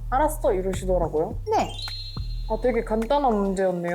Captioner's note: simple sound effect